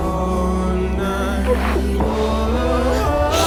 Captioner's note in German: Schluchzen